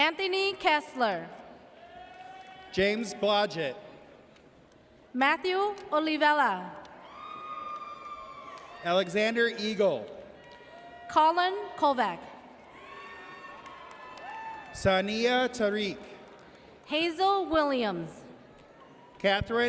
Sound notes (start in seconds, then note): 7.0 audience cheers; 12.6 audience cheers